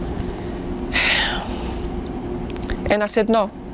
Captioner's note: sighing